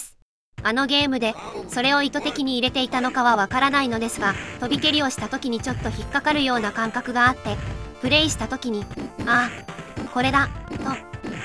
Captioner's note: laughs